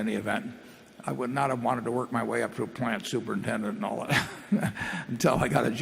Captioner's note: laughs